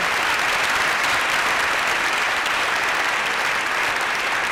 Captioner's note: applause